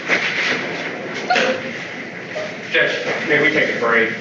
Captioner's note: Quaneesha whimpering, crying